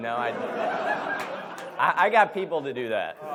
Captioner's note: audience laughs